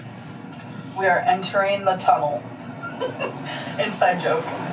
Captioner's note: laughs